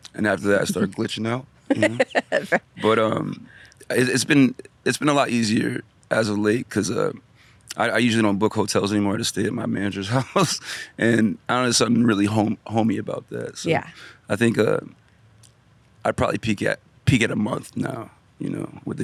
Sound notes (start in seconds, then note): 1.7 laughs